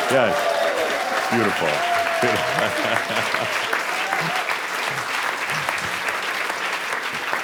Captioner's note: audience applause